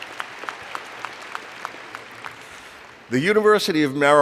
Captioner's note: applause